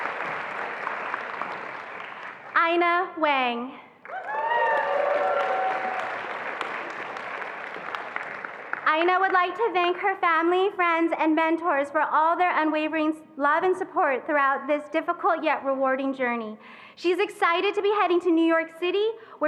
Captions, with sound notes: Aina Wang. (attendees applauding and cheering) Aina would like to thank her family, friends, and mentors for all their unwavering love and support throughout this difficult, yet rewarding journey. She's excited to be heading to New York City,